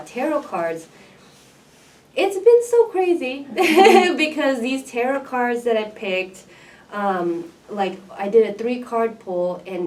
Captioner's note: laughs